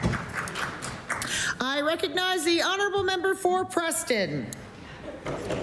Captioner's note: applause